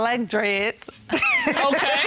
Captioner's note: laughter